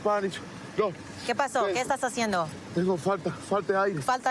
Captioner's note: speaking spanish